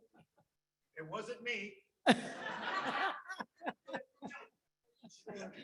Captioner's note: audience laughs